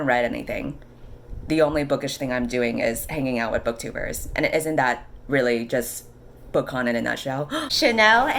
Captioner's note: gasp